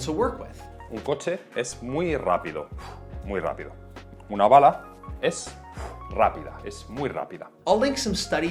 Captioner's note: Spanish audio